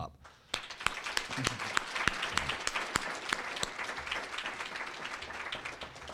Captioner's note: applause